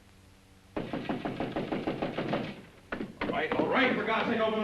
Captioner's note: knocking on door